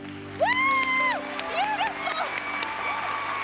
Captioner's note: cheering, applause